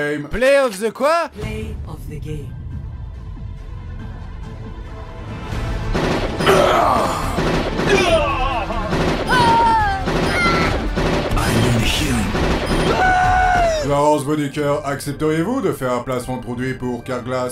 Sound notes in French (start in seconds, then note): 2.6 Musique épique; 5.9 Coups de tir mélangés à des gens qui meurent